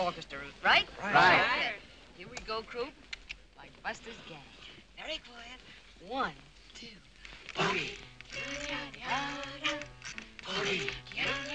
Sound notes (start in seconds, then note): 7.6 whispering; 8.5 everyone humming